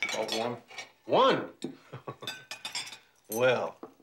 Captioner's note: chuckles